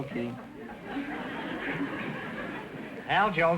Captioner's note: audience laughter